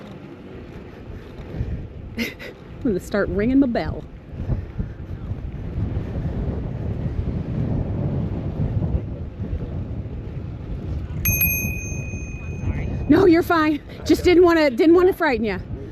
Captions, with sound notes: [giggles] gonna have to start ringing my bell [see-me bell™ rings] oh, i'm sorry no, you're fine just didn't want to frighten you